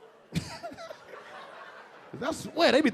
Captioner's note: LilRel laughing